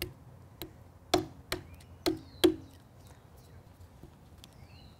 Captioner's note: hammering into tree